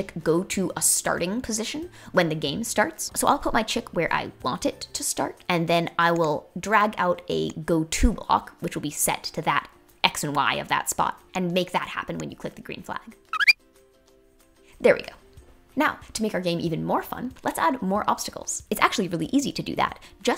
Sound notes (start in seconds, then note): 13.3 bird chirping